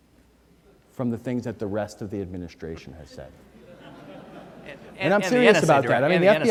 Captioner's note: audience laughter